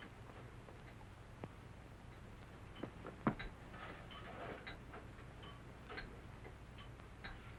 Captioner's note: clinking afar